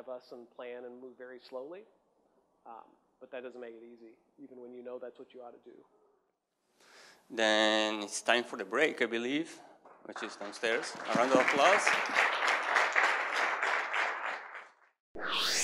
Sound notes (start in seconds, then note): 10.0 audience applause